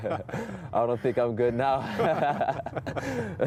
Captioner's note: laughter